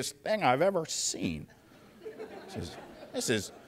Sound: laughter

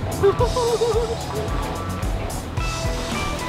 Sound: laughing; relaxed rock music

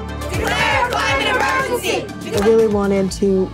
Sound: crowd

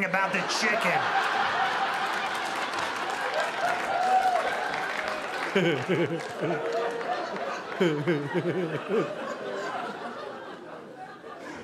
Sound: audience laughing

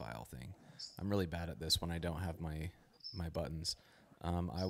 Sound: none

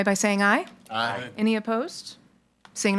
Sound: in Unison

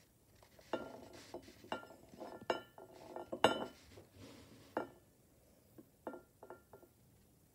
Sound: bowl rolling on table and clinking against plate

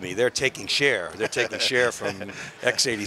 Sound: chuckling

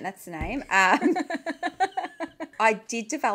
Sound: laughing

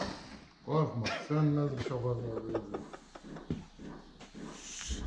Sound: laughing

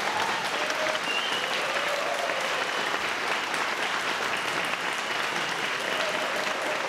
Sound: crowd loudly applauds

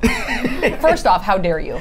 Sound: laughs

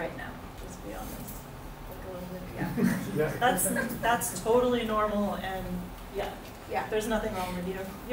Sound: laughs

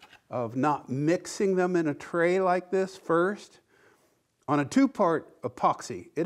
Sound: none

